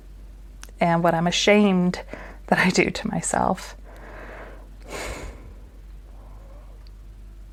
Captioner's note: sigh